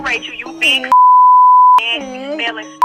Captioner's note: beeping; upbeat rap music